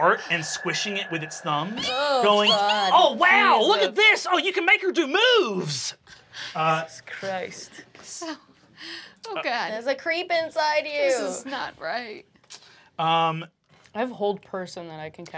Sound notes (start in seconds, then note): 1.6 squeals